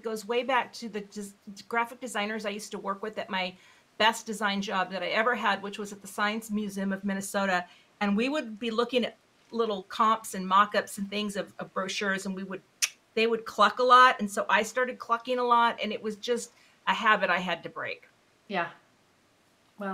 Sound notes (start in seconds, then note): 12.3 tongue clucking